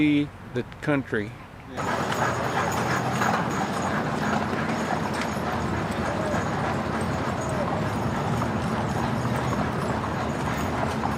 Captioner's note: horse and wagon sounds w/ traffic noise